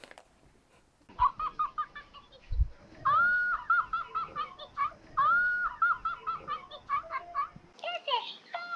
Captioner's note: Elmo laughing